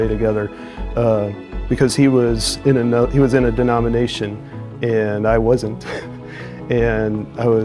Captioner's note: chuckles